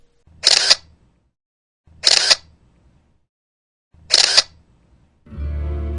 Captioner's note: shutter sounds